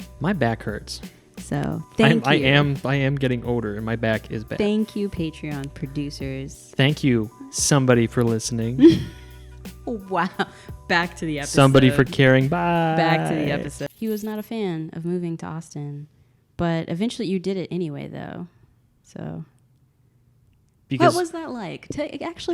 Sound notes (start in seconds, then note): 8.8 laughs